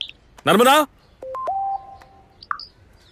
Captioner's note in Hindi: फ़ोन की घंटियाँ